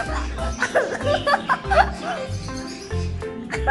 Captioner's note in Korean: 재잘재잘